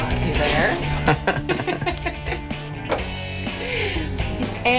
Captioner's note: laughter